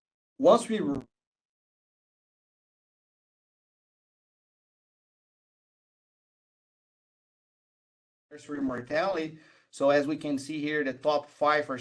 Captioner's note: audio cutout